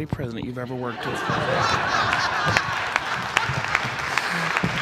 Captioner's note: attendees laughing